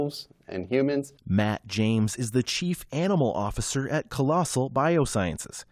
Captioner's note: voice-over